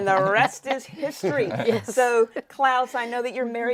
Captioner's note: laughing